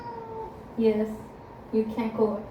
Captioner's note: meowi meows back